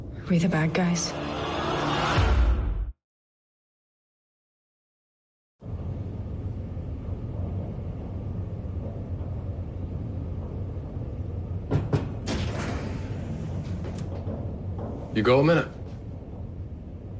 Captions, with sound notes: Are we the bad guys? ( knocking on door ) You got a minute?